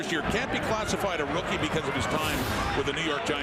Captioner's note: crowd Noise